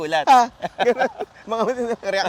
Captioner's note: laughs